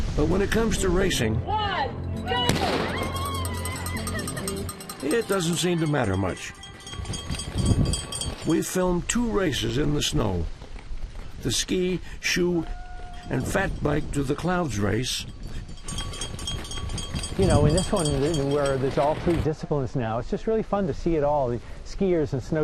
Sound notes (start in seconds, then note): 2.2 competitor cheering; 2.5 gun blasting; 4.5 bell ringing